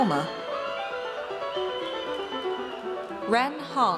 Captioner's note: audience cheers